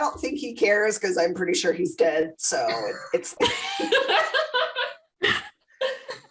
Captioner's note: laughter